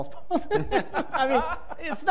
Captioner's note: laughter